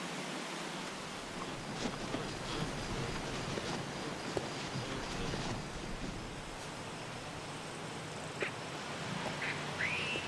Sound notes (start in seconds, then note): none